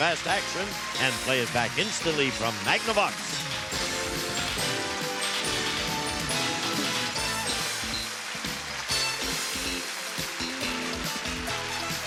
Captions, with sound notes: to capture fast action and play it back instantly from Magnavox. [applause, theme music]